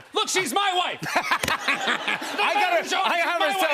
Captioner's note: laughter